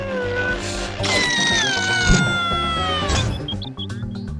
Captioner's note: cabby screams